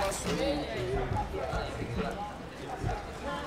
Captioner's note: indistinct chatter